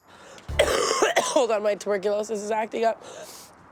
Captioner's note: laughs; coughs